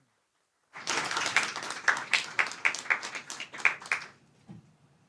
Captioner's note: applause